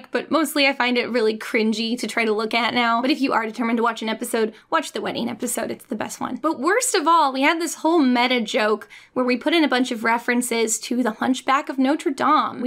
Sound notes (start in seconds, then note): none